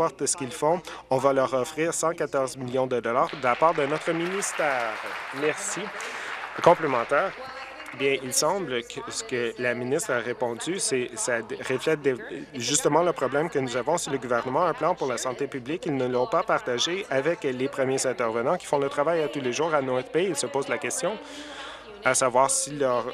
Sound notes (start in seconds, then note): 5.6 applause